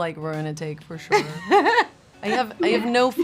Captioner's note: Kerry laughs